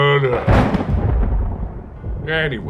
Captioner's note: thunderclap